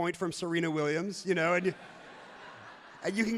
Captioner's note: crowd laughs loudly